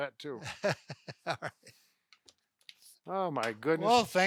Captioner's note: laughs